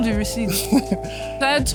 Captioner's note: laughs